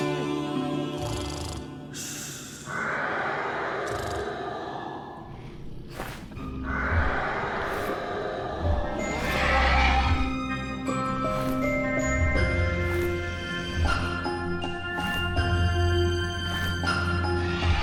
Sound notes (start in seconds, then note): 1.0 snoring; 4.6 dragon cries; 9.3 mysterious music; 14.6 wingbeats